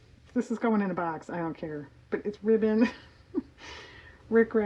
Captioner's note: laughs